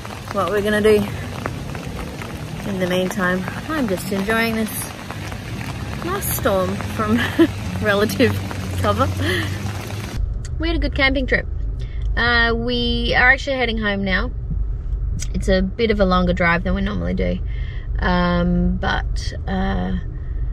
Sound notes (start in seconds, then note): 7.2 chuckles